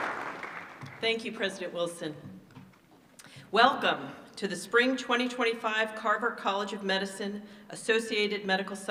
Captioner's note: applause